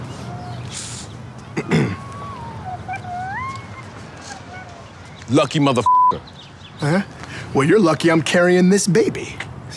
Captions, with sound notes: (man clearing throat) (baby cooing) - Lucky mother(beep). - Well, you're lucky I'm carrying this baby.